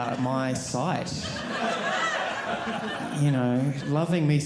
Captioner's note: audience laughing